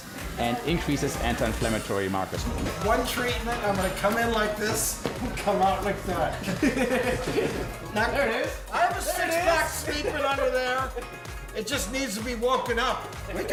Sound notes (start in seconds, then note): 5.8 men laughing